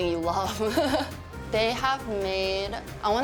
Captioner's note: laughs